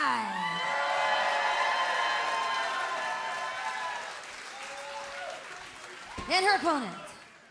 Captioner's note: crowd cheering